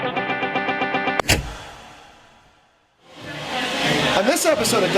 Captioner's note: clicks